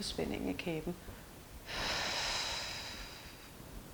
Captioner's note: breath out